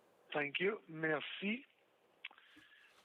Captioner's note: speaking french